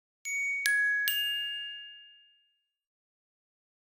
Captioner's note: soft chimes